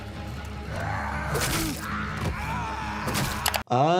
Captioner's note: dramatic music; attacker and victim shouting